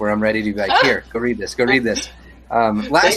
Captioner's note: laughs